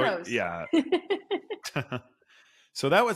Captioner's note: both laughing